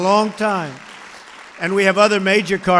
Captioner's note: applause